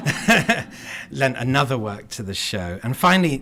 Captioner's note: laughter